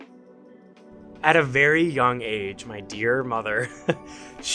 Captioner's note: chuckles